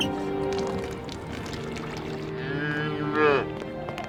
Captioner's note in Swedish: vattenstänk